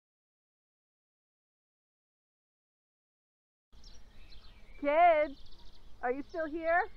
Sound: none

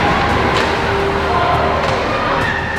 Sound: crowd noises

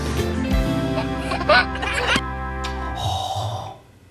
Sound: giggling

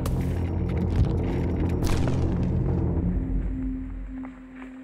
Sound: twigs cracking; suspenseful music

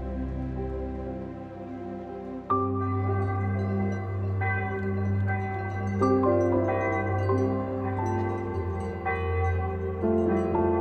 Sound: bells ringing

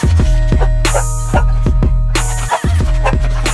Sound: barking

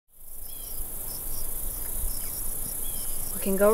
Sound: cicadas chirping

